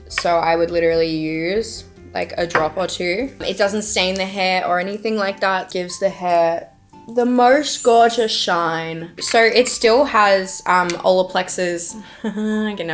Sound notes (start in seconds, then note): 7.1 glitter sparkles; 12.0 laughs